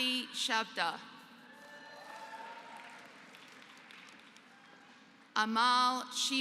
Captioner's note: applause